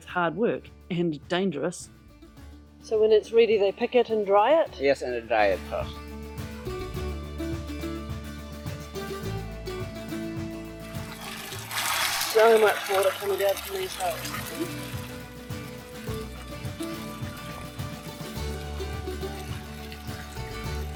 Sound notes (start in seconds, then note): 10.2 water running; 16.1 acoustic music